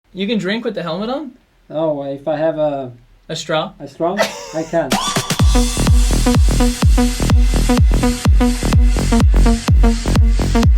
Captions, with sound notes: - You can drink with the helmet on? - Oh, well if I have a... - A straw? - A straw, I can. (laughs) (upbeat electronic music)